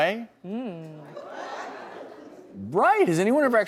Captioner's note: audience clamoring